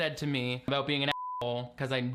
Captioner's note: beep